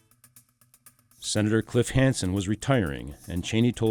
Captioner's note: voiceover